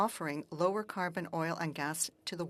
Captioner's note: speaking French